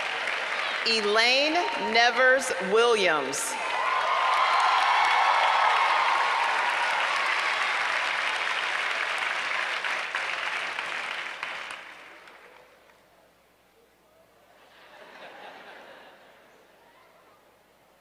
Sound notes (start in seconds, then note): 3.0 applause